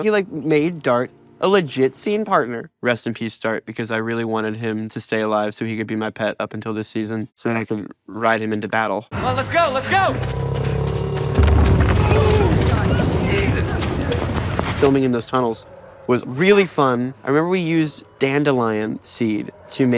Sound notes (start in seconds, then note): 11.4 monster growling; 11.8 rocks rumbling